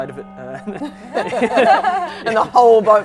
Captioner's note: laughing